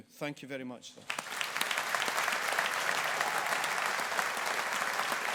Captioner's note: audience applauding